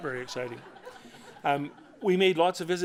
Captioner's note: laughter